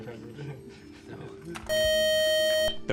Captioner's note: beep